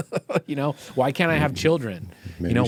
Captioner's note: laughing